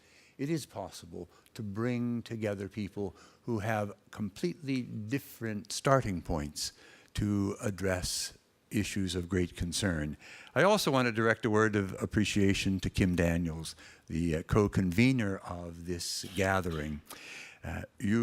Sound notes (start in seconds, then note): none